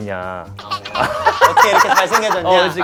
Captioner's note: members burst out laughing